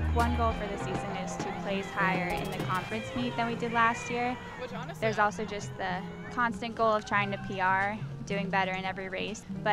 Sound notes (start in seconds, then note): 4.6 background chatter; 4.6 serious music